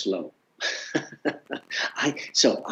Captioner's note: laughs